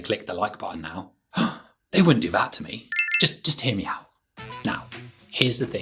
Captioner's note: gasp